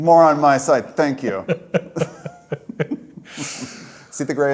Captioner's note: both laugh